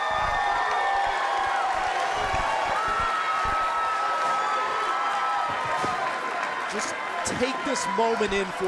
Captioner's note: cheers and applause